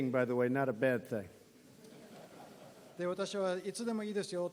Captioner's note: laughter